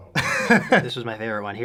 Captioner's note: chuckle